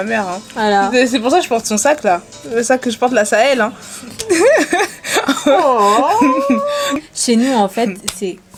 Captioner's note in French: rires